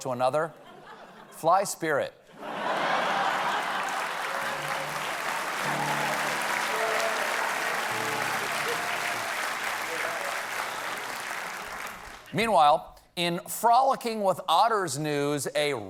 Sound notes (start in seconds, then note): 2.3 laughter; 2.7 applause